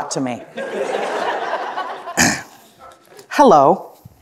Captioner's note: audience laughing